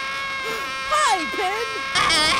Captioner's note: Pin screams; gasps; Pin screams